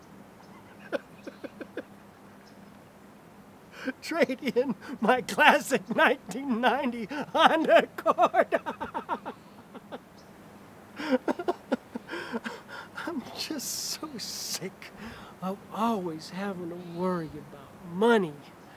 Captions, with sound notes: ( laughing ) TRADE IN MY CLASSIC 1990 HONDA ACCORD. ( sobbing ) I'M JUST SO SICK OF ALWAYS HAVING TO WORRY ABOUT MONEY.